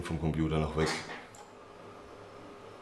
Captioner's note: click